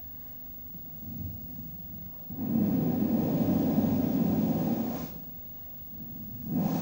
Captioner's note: shri mataji blows into the microphone; shri mataji blows into the microphone